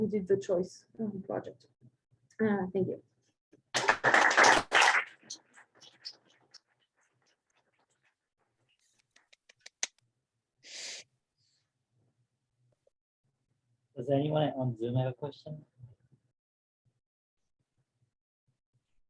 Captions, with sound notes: did the Choice Project. Thank you. [APPLAUSE] Does anyone on Zoom have a question?